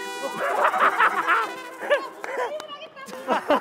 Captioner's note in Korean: ㅎㅎㅎㅎㅎㅎㅎㅎㅎㅎㅎ